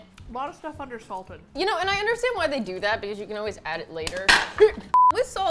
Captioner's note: clang